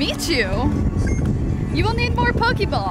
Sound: beep

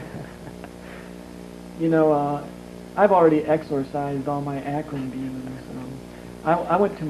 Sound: laughs

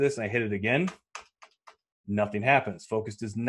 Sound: clicking keyboard

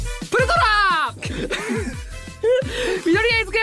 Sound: laughs

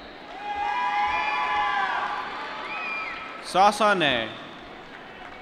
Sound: applause

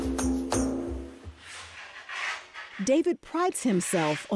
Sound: gentle, rhythmic music; sanding

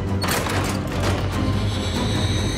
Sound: doors fly open; dramatic music

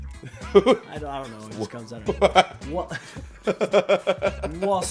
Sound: laugh

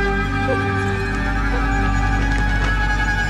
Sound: frightened crying

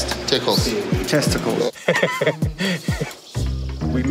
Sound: chuckles

